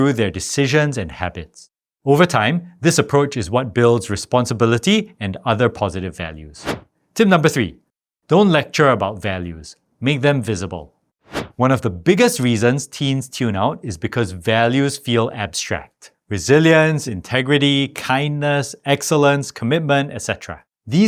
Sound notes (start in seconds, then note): 6.6 air whooshing; 11.3 air whooshing